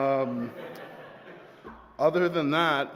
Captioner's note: laughter